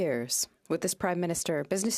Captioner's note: speaking in French